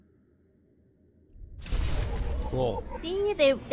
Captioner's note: gunshot